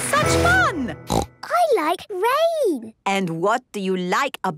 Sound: snorting

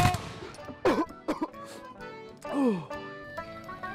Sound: gunshot; coughs

